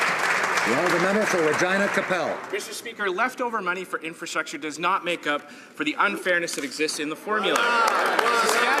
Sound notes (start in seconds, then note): 0.0 some Applause